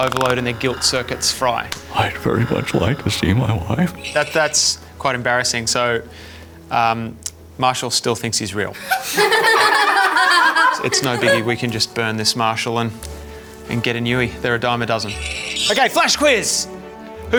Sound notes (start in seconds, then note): 8.8 children laughing